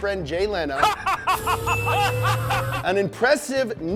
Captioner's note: Jay laughs